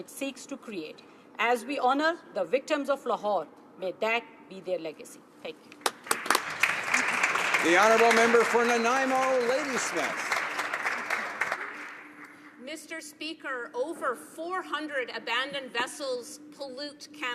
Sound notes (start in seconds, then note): 10.7 applause